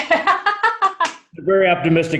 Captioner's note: laughing